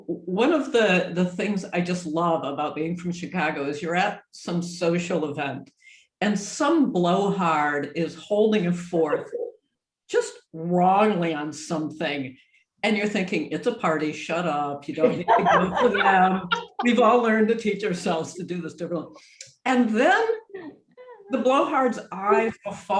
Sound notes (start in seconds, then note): 8.8 laughs; 14.9 group laughs; 18.9 mumbles